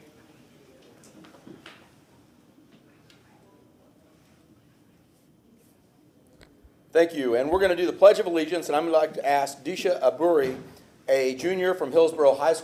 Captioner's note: moment of silence